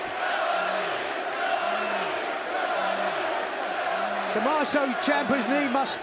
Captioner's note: crowd cheering